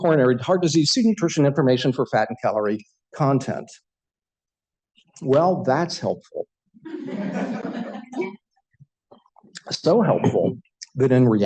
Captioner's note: laughter